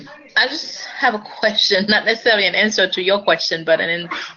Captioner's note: laugh